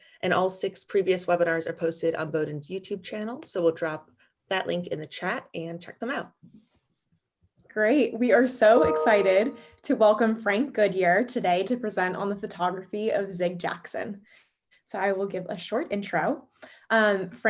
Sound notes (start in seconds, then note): 8.8 ding